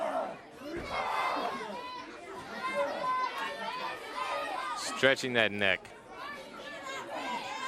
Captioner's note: crowd chatter